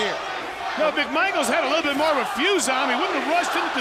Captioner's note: crowd cheering